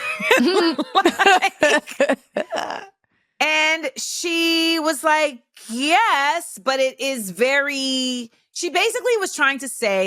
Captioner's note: laughs